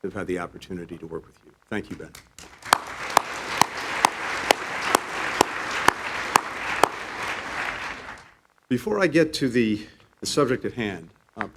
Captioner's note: applause